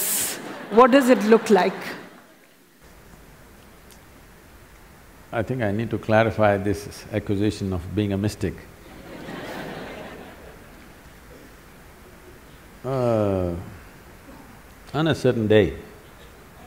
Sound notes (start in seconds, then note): 8.8 laughter